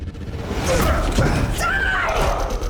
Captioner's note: dramatic music; Jonathan grunts